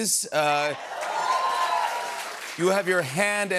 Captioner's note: applause